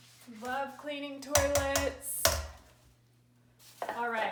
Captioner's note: wand tapping